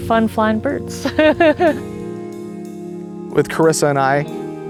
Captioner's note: laughs